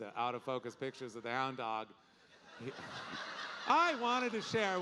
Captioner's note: audience laughing